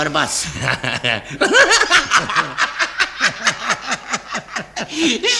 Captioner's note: laughs heartily